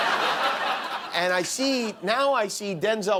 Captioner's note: laughter